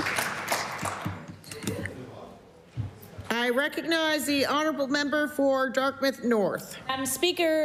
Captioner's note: applause